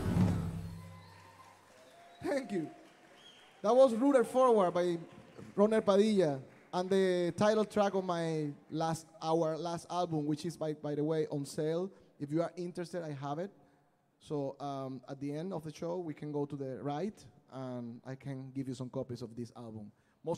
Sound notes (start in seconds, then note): 0.8 audience applauding